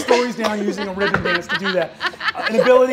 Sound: laughing

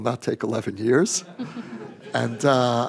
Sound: laughter

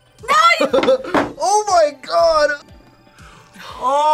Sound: laughs

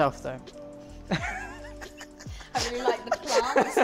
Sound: group laughing

